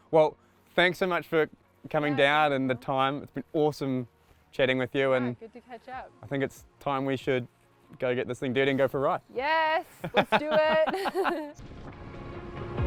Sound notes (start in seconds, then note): 10.0 chuckles; 10.0 laughs